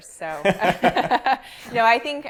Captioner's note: both laughing